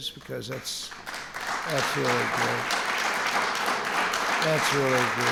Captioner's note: applause